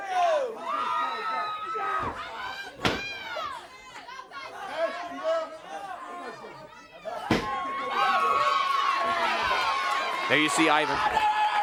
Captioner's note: crowd cheering